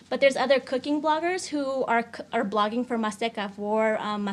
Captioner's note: speaks in foreign language